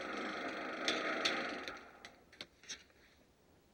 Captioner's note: projector stops